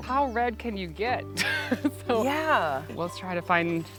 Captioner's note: laughing